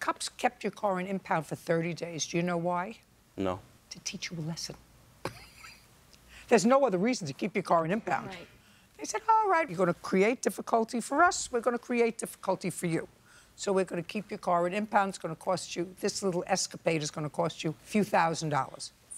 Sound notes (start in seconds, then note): 5.2 chuckles